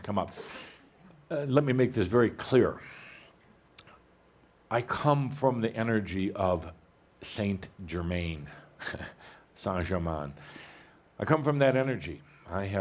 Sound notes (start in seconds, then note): 9.1 pronounced in the French